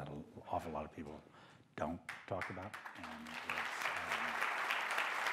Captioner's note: applause